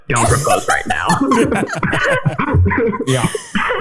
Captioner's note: all laughing